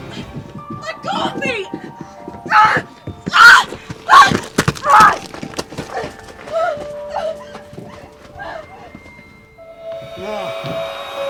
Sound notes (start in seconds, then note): 3.3 screams